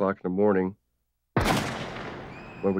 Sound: gunshots

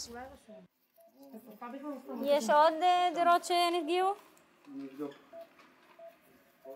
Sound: medic speaks foreign language

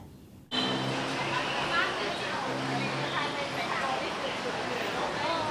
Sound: chattering indistinctly

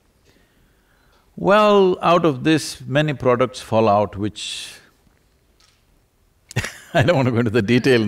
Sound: laughs

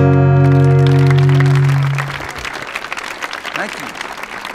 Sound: audience applauding

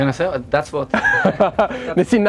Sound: laughter

